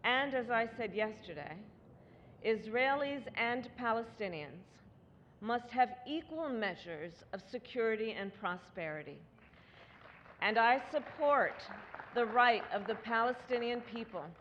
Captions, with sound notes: And as I said yesterday, Israelis and Palestinians must have equal measures of security and prosperity. (Applause.) And I support the right of the Palestinian people